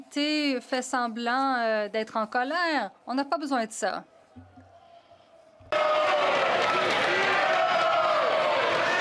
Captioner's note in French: voix de l'interprète